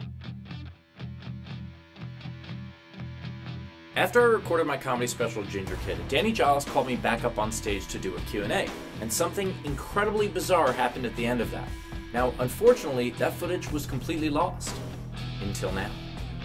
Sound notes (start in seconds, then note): none